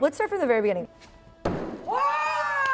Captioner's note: axe hitting wood